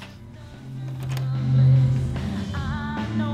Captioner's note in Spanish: Puerta se habre